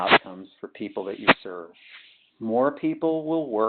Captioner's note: sliding static